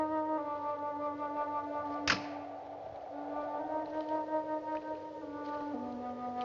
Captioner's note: wind Whistling Quietly